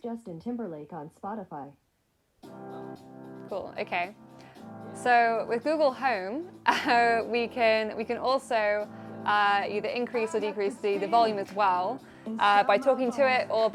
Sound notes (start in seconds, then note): 6.7 laughs